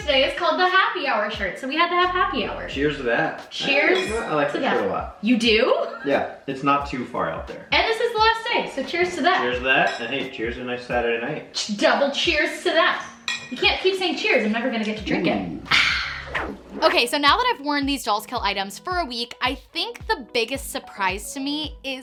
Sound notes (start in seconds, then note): 3.7 glasses clink; 9.8 glasses clink; 13.2 glasses clink